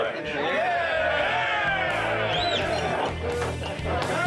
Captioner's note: group cheers; rock music